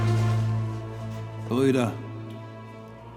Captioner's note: speaking in German